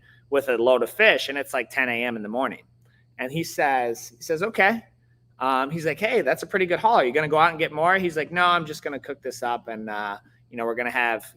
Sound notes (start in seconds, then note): none